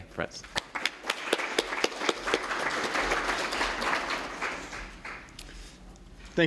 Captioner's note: applause